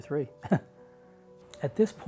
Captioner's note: laughing